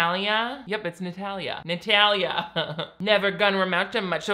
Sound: laughs

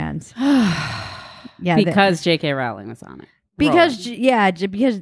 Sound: sighs

